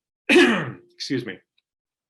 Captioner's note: clearing throat